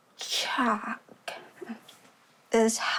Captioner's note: clears throat